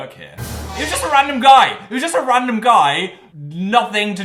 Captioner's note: shocking noise